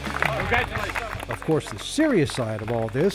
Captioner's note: applause